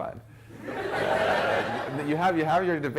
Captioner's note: laughter